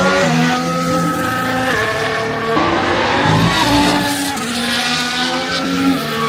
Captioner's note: sounds of cars